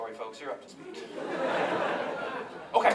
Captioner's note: laughter